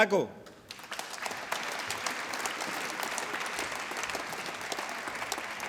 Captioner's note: applause